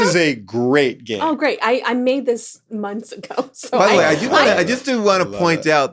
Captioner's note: laughs